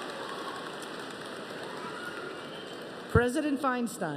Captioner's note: applause